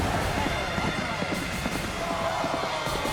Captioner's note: intense dramatic music; hooves clomping; crowd shouting